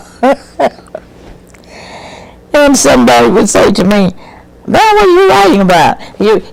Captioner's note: laughs